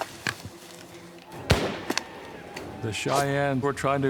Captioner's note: gunfire